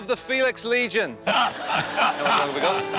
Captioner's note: laughter